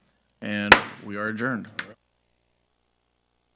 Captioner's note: gavel banging